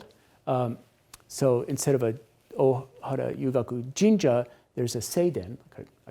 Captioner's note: speaks Japanese